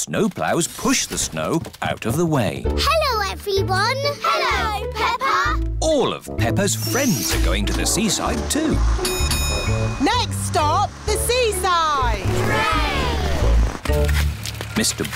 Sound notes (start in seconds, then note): 9.0 bell dings